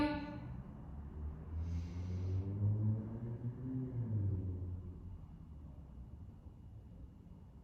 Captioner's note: deep breath